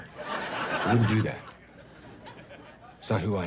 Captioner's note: audience laughs